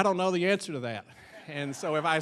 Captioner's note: audience laughing